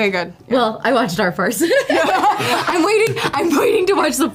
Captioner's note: laughs